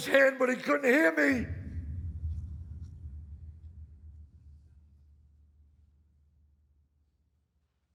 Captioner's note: hush falling over